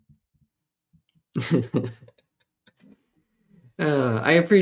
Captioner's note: laughter